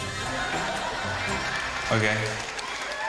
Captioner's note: laughter